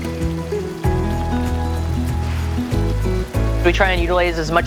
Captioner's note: oil sizzling